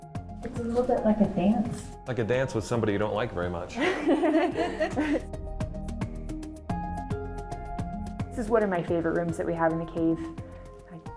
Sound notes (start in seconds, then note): 3.6 laughing; 5.9 upbeat music